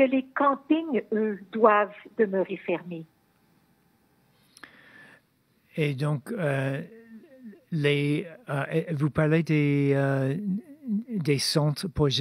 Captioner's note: speaking French